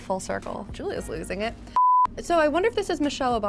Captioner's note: beep